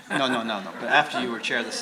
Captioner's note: laughter